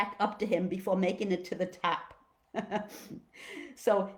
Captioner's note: chuckles